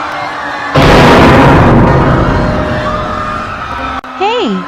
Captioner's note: GoAnimate Scary Sound Earrape